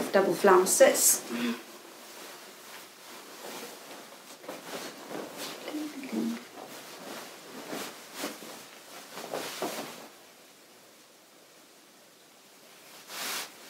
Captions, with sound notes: double flounces. (petticoat rustling) (presenter humming)